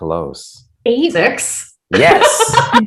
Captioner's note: all laughing